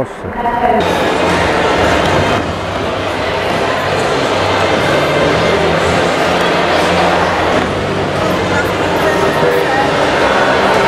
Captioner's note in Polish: odgłosy z hali sportowej, hałas, szum